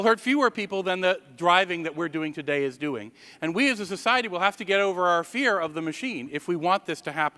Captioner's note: none